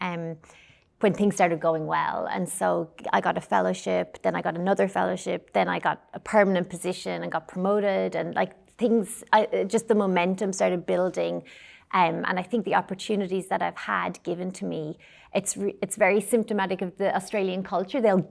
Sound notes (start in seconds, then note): none